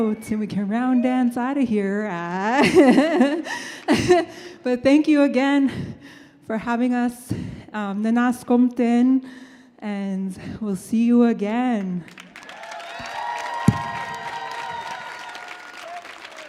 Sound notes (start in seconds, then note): 2.5 laughing; 7.8 speaks in Native language; 12.1 audience cheers and applauds